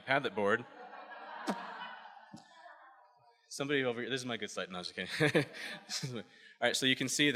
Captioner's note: laughs